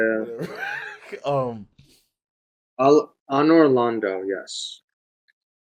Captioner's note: laughs